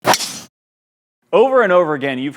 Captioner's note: glass breaking